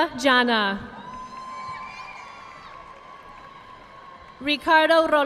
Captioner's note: audience applauding